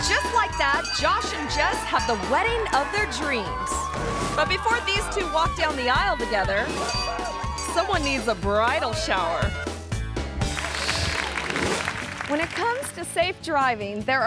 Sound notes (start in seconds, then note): 6.8 bell rings; 10.4 audience claps; 10.7 upbeat music